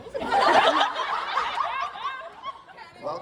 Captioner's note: audience laughs